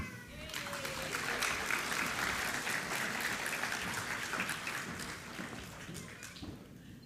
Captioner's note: applause